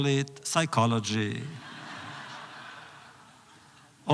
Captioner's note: laughter